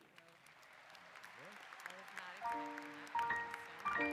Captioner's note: applause